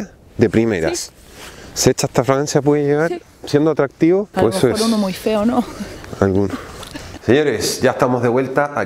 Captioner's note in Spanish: Ella ríe